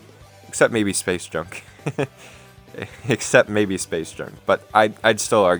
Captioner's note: laughs